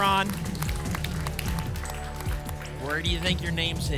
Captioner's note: applause and cheering